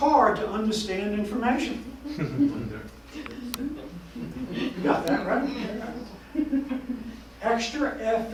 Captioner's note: audience chatter